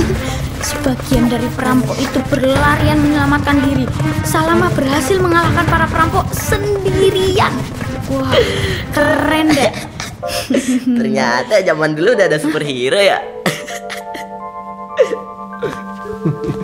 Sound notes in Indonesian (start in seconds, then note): 8.0 suara Hoho tertawa; 13.4 Hoho tertawa meledek